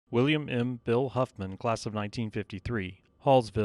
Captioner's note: voiceover